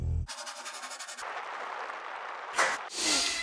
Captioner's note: eraser rasping; hands smacking